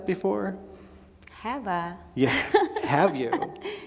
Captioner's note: laughs